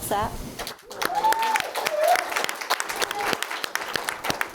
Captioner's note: audience applauds